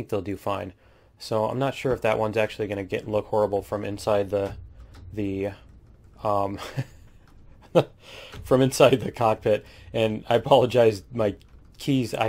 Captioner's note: laughs